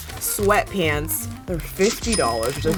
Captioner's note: cash sound